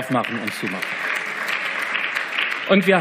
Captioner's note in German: Beifall